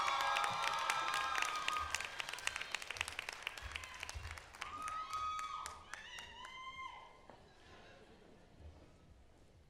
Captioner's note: applause